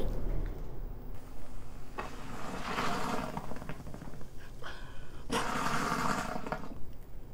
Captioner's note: volcano sputtering